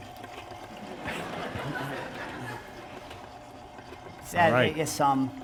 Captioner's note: laughter